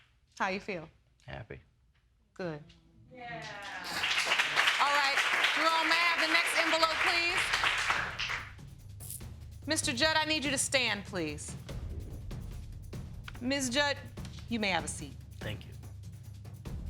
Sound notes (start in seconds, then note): 3.2 cheering